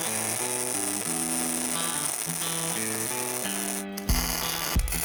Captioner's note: drill whirring